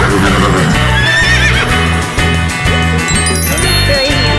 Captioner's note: horse whinnies